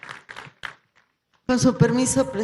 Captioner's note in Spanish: aplausos